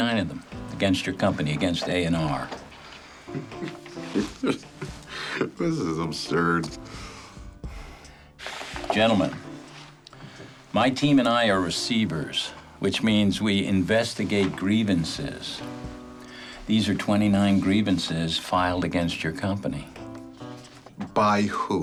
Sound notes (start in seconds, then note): 3.0 laughs